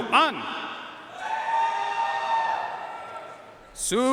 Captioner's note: audience cheering and applauding